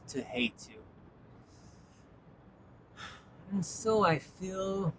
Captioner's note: sigh